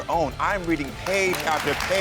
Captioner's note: audience applauds